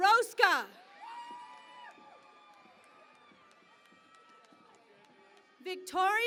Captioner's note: cheering and Applause